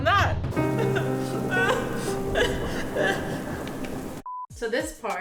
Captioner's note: fake crying sounds